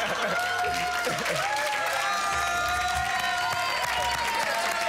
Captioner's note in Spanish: Risas